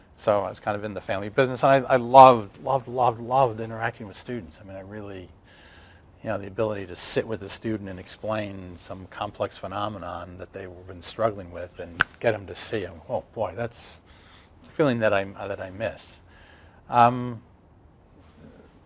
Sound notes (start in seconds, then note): 12.0 snaps fingers